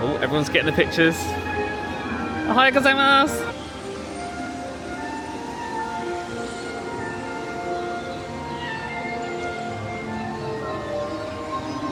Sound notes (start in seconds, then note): 4.4 birds tweeting; 4.4 bright music